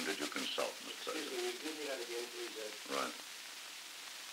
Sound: production chatter

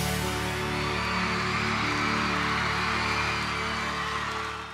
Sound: crowd cheering

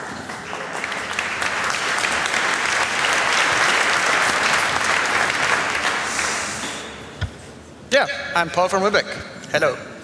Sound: applause

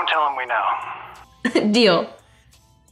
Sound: laughs

